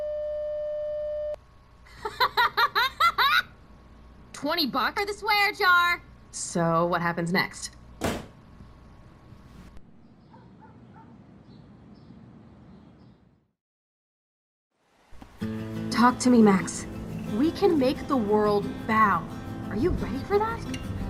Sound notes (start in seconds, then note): 1.9 Chloe laughs